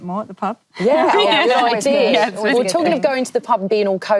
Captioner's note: laughing